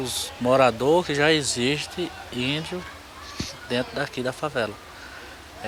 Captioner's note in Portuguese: Sons ambiente de rua